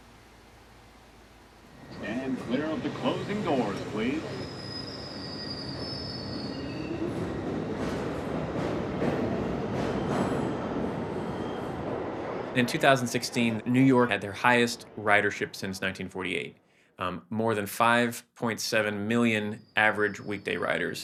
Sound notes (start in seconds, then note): 4.3 train screeching; 7.9 train rattling